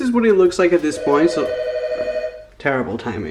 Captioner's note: phone rings